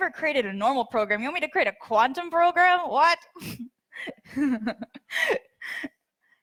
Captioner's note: laughs